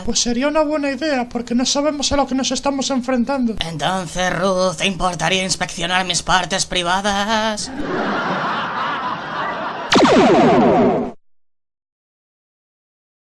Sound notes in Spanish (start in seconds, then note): 7.6 risas